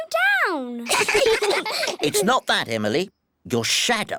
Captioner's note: all giggle